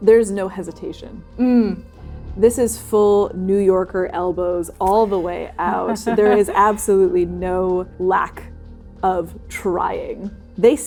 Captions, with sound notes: There's no hesitation. There's no hesitation. - Mm! This is full New Yorker, elbows all the way out. There is absolutely no lack - [laughing] of trying.